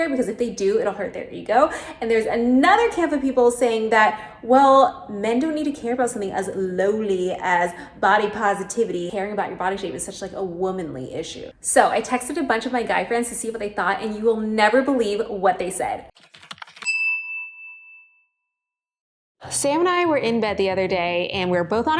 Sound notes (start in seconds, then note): 16.1 keyboard typing clicking; 16.8 bell chiming